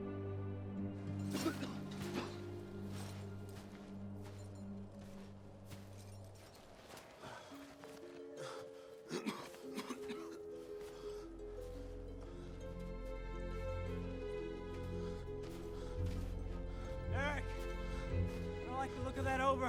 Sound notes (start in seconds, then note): 1.2 coughing; 7.2 coughing